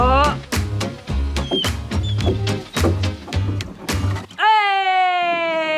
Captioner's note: dog whines